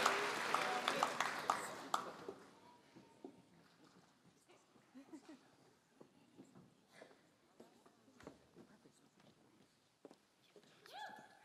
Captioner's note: applause